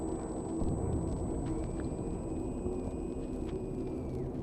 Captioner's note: crackling